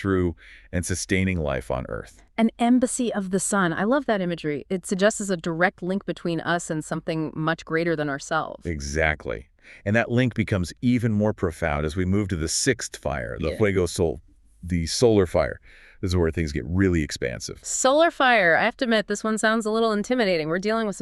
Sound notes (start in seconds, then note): 14.2 Spanish